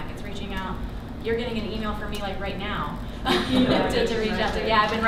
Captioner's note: laughs